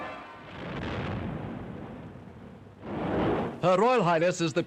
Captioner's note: cannon booms